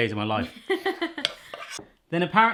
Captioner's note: laughs